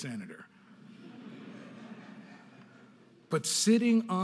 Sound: audience laughing

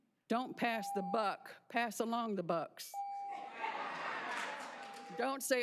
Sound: cheers and applause

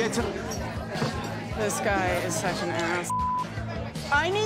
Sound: beep

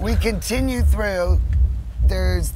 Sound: heart beat sound

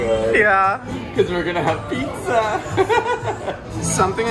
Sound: laughs

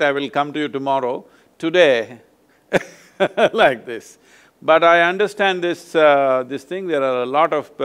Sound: laughs

